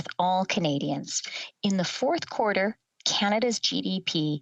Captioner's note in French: voix de l'interprète